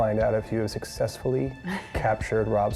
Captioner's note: laughs